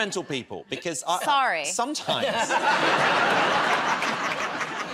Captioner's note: laughter